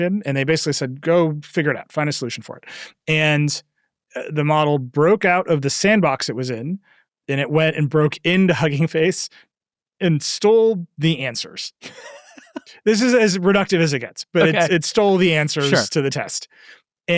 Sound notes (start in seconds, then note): 11.8 laughing